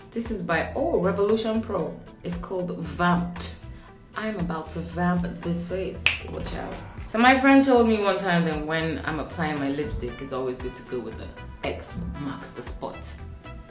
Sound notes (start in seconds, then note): 6.0 snapping